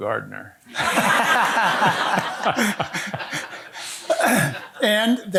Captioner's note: audience laughing